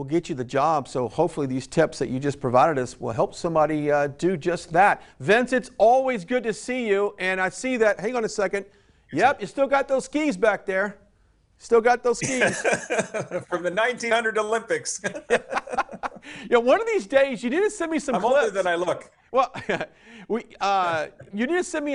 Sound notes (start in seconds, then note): 12.2 chuckles; 14.8 laughing; 18.1 chuckles